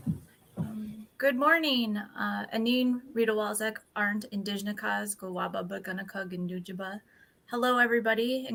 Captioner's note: speaking Ojibwe